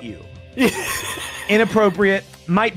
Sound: laughs

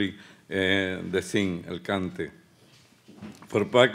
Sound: speaking Spanish

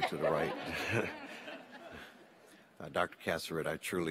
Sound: all laugh

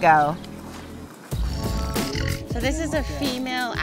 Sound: aligator growl

